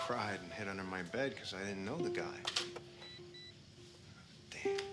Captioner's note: camera beeps